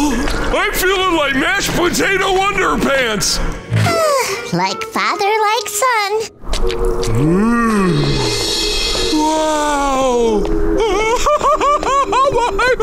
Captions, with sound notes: I'm feeling like mashed potato underpants. [sighing] Like father, like son. Ooh... Wow... [laughing]